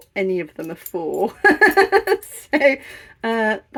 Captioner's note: laughing